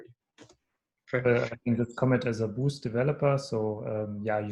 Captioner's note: murmurs